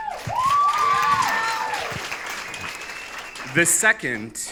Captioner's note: audience cheers